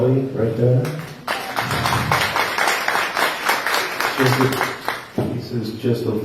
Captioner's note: applause